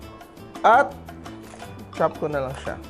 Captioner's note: Crunch